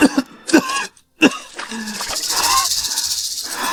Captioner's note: cough cough